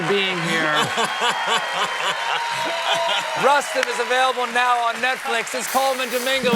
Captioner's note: laughs